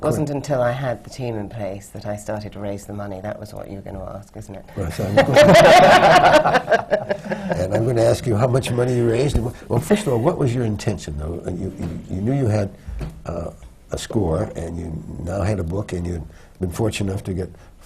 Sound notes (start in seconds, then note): 5.0 laughter